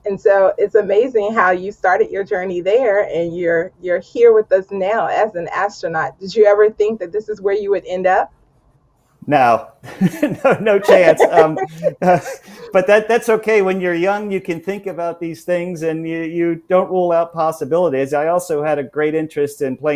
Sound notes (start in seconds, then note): 9.8 chuckles; 10.0 laughs